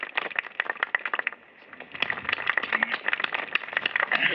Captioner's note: applause